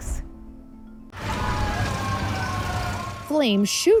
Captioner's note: siren wailing; fire roaring